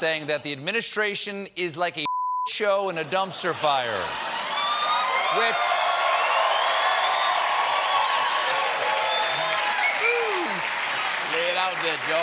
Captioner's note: cheers and applause